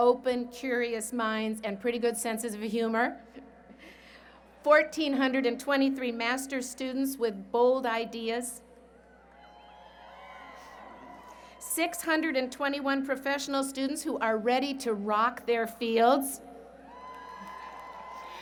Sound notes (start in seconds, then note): 9.0 cheering; 16.8 cheering